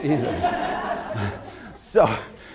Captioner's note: audience laughter